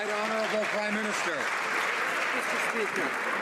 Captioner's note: some Applause